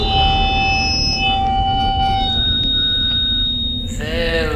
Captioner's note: speaker feedback